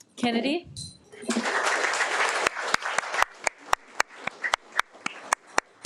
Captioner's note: audience applauding